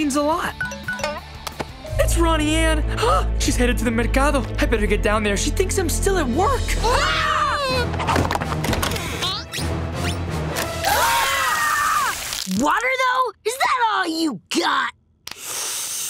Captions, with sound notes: [chiming] That's Ronnie Anne. Ah! She's headed to the Mercado. I'd better get down there. She thinks I'm still at work. [screaming] [screaming] Water, though? Is that all you got? [sniffing]